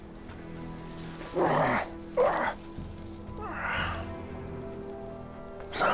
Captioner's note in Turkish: İnleme Sesi